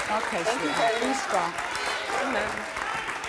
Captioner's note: audience applauding